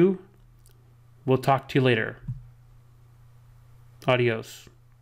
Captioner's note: speaks Spanish